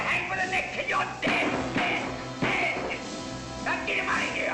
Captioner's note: banging